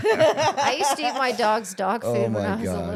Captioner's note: laughing